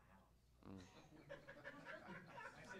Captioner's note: laughter